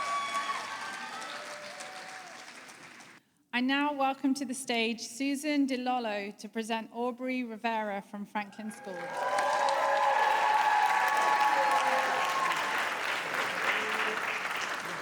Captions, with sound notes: I now welcome to the stage Susan DiLolo to present Aubrey Rivera from Franklin School. [APPLAUSE] [CHEERING]